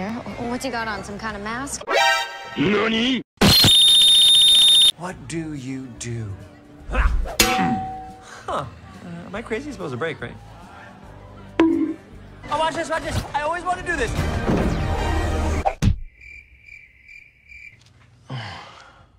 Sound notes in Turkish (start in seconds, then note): 7.4 çınlama; 11.4 bonk